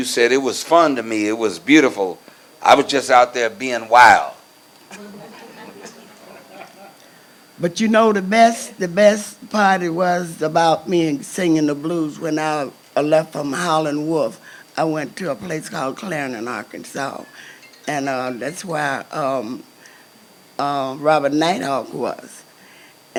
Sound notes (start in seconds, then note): 4.9 crowd laughs